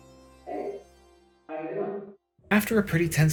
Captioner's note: echoing behind the door